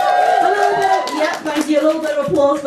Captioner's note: cheers